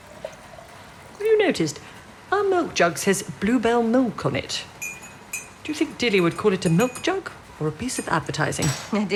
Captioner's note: liquid being poured; tea being stirred